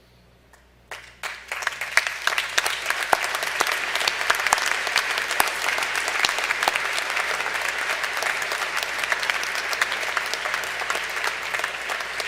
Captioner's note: applause